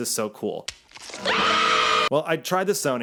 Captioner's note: woman screams